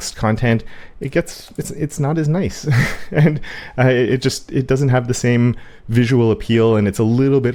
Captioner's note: laugh